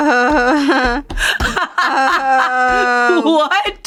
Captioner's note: laughs